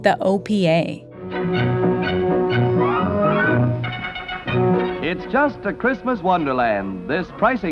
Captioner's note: soundbite of archived recording